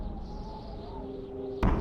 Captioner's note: wind whistles